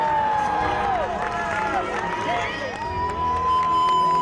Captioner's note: applause